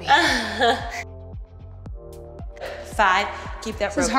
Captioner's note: chuckles